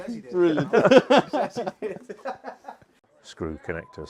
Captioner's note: laughter